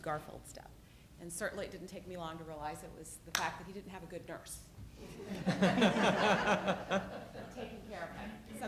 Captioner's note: audience laughs